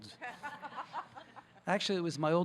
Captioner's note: audience laughing